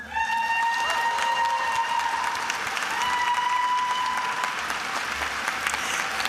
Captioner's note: attendees applauding and cheering